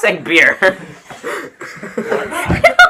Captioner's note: laughter